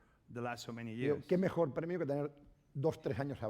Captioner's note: speaking spanish